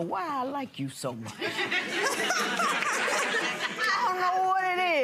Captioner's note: laughing